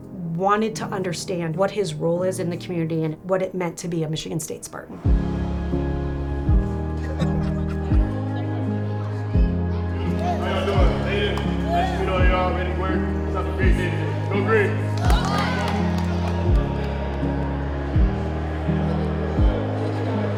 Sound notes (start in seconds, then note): 5.1 soft uplifting music; 7.0 soft laughter and chatter; 17.9 students clapping